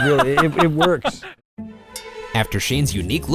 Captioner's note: laughing